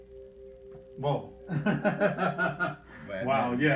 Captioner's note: chuckles